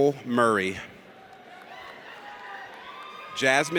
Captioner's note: audience cheers